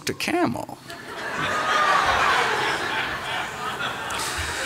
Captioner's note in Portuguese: Risos